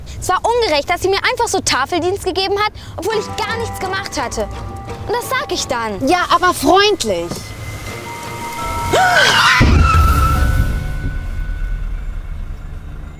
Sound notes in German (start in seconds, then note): 8.2 Erschrockenes Einatmen, Bremsenquietschen